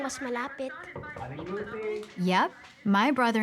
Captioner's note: knocking on door